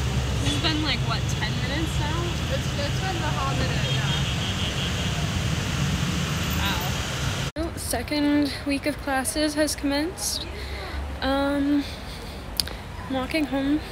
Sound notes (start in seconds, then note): 4.3 more honking